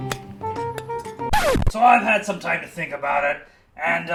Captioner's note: record scratch